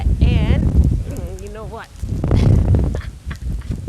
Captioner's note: laughter